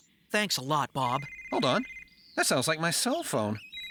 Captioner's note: phone Ringing